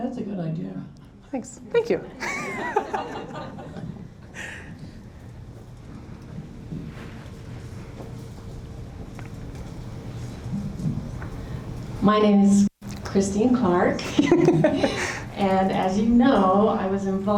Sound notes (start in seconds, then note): 2.2 laughter